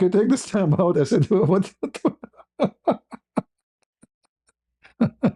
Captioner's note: ketawa